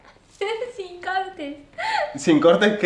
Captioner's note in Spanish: risas